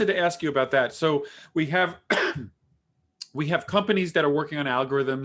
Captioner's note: coughing